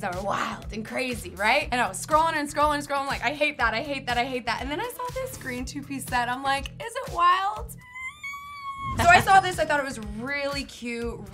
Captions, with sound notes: that were wild and crazy, right? And I was scrolling and scrolling and scrolling. I'm like, "I hate that. I hate that. I hate that. And then I saw this green two piece set. I'm like, "Is it wild?" (squeals) So I saw this. I thought it was really cute,